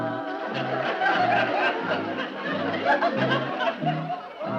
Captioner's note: audience laughing